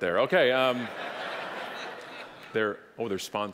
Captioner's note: audience laughing